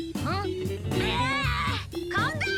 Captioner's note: Milo shouts